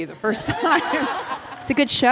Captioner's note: laughter